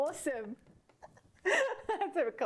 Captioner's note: laughing